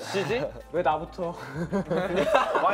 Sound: speaking Korean; all laughing

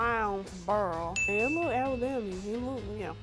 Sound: bell chimes

